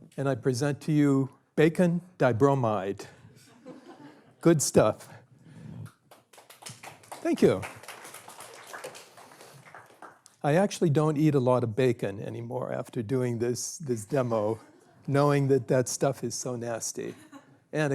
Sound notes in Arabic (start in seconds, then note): 5.9 تصفيق